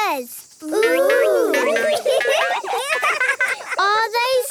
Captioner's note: laughing